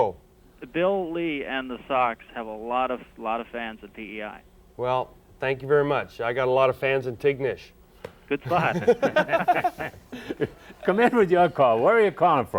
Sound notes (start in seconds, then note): 8.4 laughs